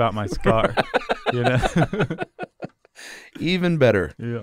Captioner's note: laughs